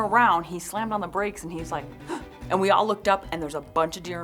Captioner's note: gasps